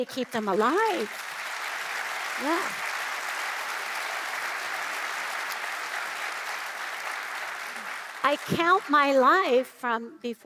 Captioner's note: applause